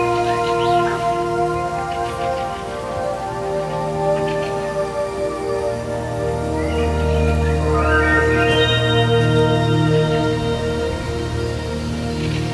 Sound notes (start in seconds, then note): 0.1 ethereal music; 8.5 birds chirping